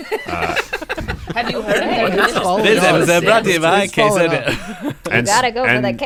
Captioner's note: laughter